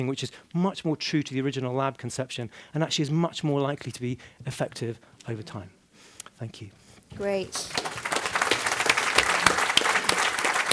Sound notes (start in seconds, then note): 7.2 applause